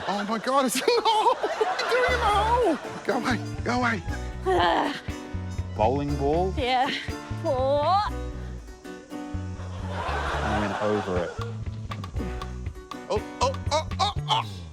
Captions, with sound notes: - Oh my God. It's in the hole. (LAUGHS) What are you doing in the hole? Go away. Go away. - (GROANS) - A bowling ball? - Yeah. Fore. - It went over it. - (GRUNTS) Ooh, ooh, ooh, ooh!